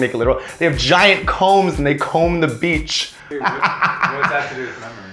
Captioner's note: cackling laughter